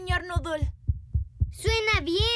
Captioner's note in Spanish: latidos